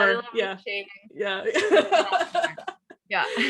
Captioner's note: laughs